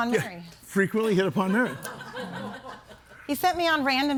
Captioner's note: audience laughing